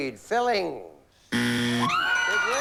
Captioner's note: buzzer